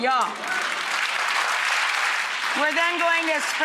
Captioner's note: audience clapping